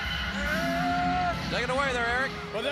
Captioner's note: crowd cheering